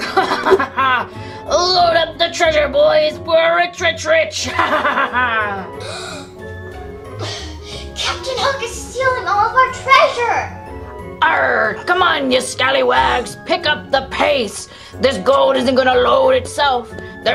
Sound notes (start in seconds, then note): 0.0 laughs; 4.4 laughs; 5.7 gasps